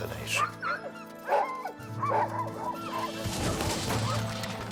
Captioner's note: dogs barking